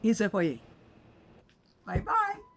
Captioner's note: Pauline speaking in French